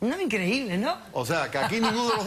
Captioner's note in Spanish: Ríe